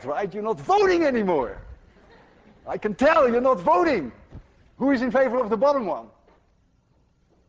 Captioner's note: class laughs